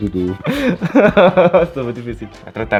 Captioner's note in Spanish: Risas